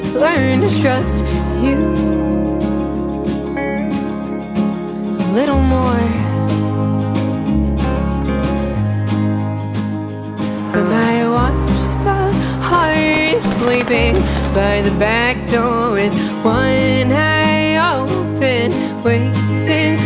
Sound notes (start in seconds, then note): 12.9 gunshots